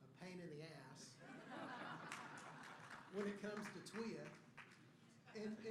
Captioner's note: laughter